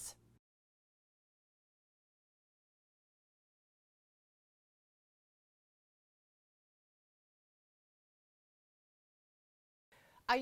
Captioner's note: no Sound Present